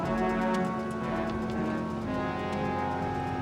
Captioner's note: tires squeal